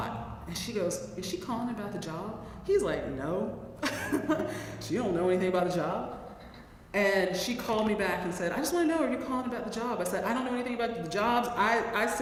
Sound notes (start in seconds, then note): 3.5 laugh